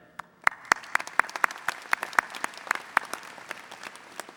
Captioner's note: audience applauding